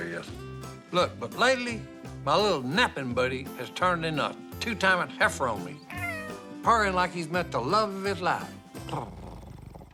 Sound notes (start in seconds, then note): 5.8 meow; 8.7 purrs